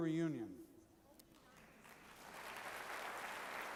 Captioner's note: applause